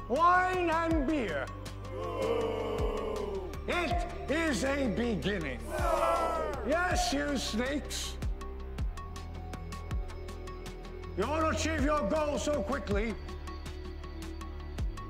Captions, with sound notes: - [Crowd] Boo! - It is a beginning. - [Crowd] No! - Yes, you sneaks! You want to achieve your goals so quickly.